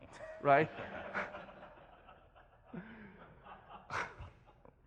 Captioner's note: audience laughs